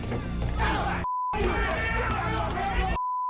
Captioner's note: yelling